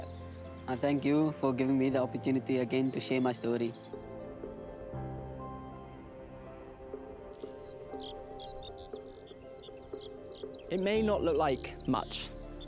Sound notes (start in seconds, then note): 3.9 light music; 7.2 birds chirping